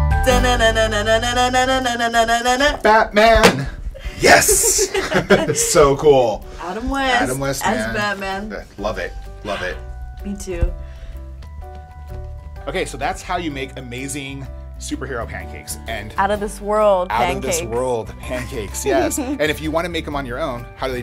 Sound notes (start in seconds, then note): 4.2 laughing